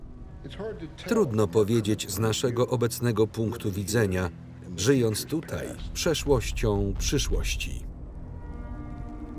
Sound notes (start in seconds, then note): 6.4 explosions